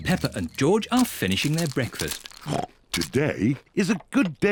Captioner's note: snorts